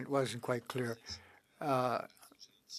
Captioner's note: speaking French